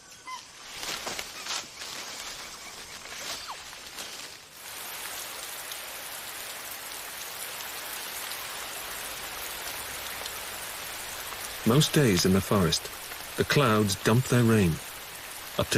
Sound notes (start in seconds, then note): 4.9 rain pattering